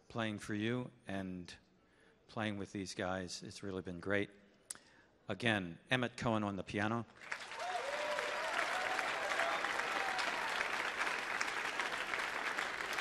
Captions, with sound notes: playing for you and playing with these guys. It's really been great. Again, Emmet Cohen on the piano. (audience applauding)